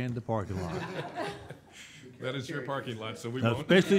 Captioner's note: audience laughing